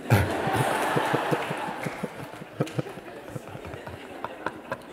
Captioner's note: laughter